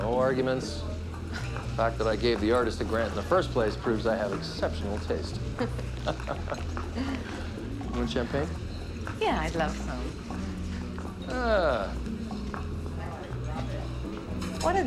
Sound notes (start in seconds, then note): 5.9 laughing